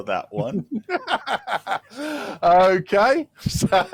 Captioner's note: laughter